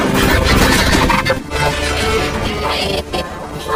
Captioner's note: glitched groaning; glitched, stuttered audio